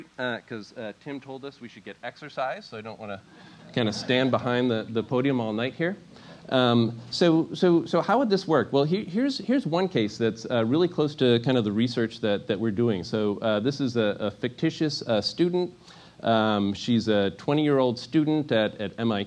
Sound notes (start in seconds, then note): 3.6 laugh